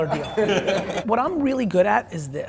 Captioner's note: laughs